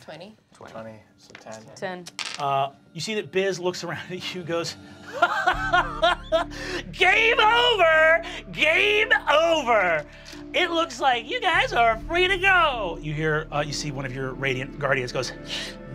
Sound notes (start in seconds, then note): 5.1 laughs